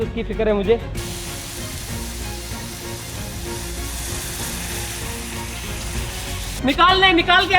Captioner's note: frying sound